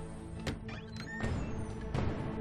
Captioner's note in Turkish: Kapı gıcırtısı sesi